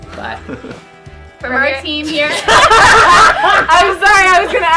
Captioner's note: laughs